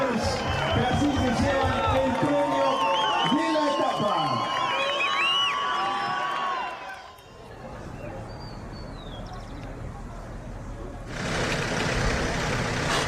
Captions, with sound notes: For winning the first stage of t [birds chirping]